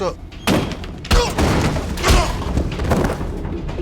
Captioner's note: grunting; suspenseful music